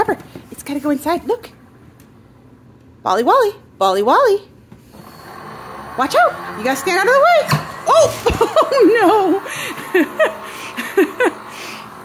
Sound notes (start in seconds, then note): 5.1 machine whirs; 7.8 laughs